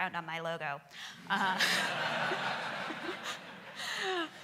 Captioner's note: laughing